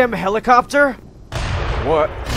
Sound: distant helicopter; distant explosion

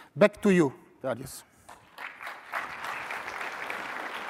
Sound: applause

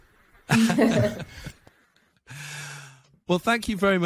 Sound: laughs

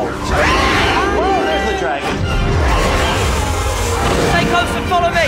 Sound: fire roaring

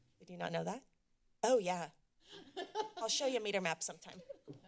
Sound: laughter

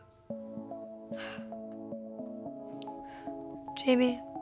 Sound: Noa sighs

